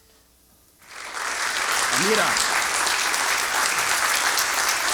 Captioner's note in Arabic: توقف الموسيقى. تصفيق